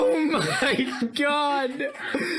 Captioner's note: chuckles; chuckling